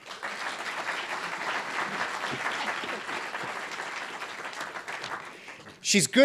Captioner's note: applause